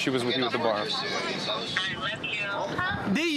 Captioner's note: on phone